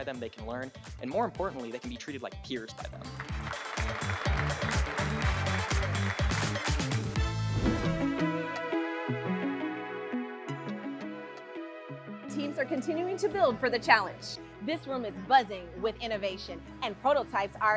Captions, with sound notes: They can be mentored by them, they can learn, and more importantly, they can be treated like peers by them. [audience clapping] [energetic music] Teams are continuing to build for the challenge. This room is buzzing with innovation